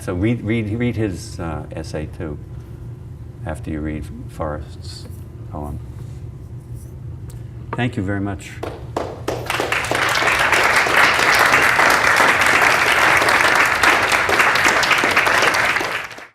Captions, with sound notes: So read his essay, too, after you read Forrest's poem. Thank you very much. [APPLAUSE]